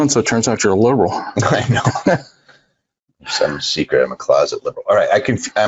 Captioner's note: laughs